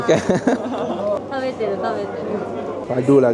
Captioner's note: laugh; speaking Japanese